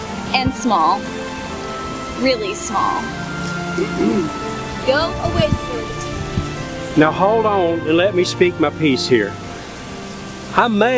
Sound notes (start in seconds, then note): 3.8 offscreen clearing throat